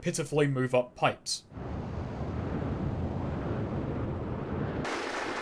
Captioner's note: wind ambiance; wind ambiance sped-up